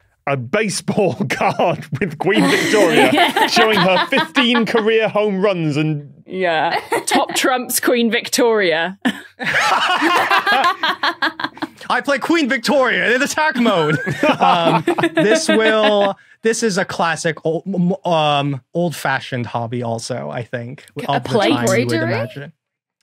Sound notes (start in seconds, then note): 9.4 laugh uproariously; 12.8 others laughing